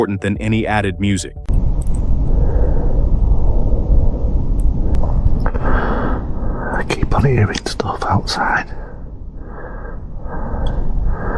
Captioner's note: original source audio: quiet movement lead-in